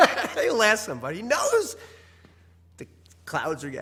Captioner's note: laugh